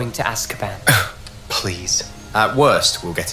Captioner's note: scoff